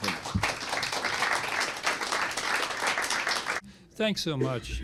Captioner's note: applause